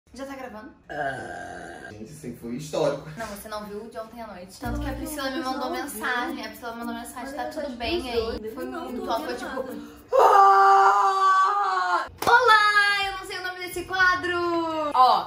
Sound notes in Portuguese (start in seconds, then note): 0.8 Arroto; 10.1 Grito